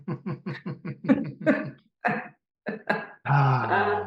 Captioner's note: pained chuckles